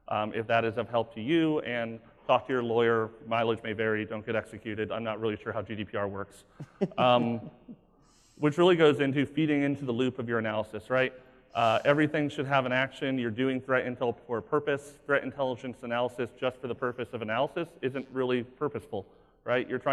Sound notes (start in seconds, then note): 6.6 laughing